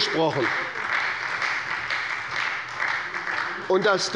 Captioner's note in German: Beifall bei der SPD